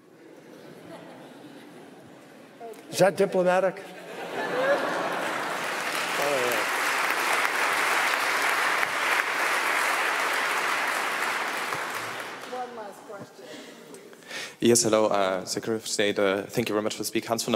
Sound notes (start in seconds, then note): 0.2 laughter; 4.2 laughter and applause